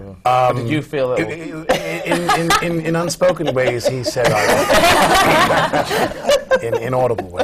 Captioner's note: laughter